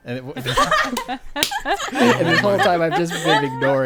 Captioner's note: laughing